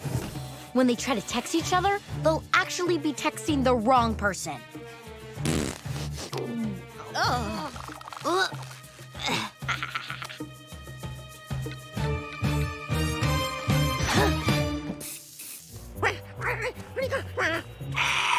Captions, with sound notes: When they try to text each other, they'll actually be texting the wrong person. [farting] [groaning] [laughing] [panting, gasping]